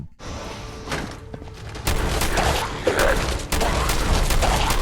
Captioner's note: gun firing